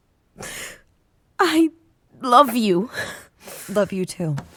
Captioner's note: crying